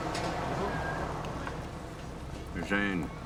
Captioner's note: car whooshes past